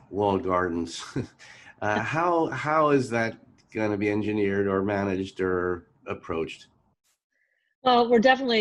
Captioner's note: laugh